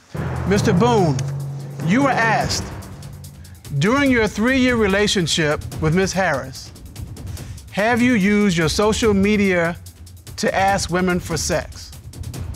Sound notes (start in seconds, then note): none